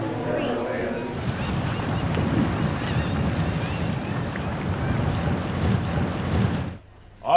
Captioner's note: seabirds and waves